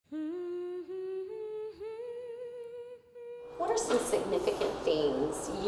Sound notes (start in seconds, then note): 0.0 woman humming